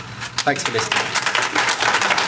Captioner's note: applause